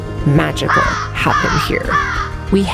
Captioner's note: crows cawing